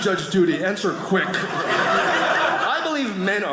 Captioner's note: audience laughing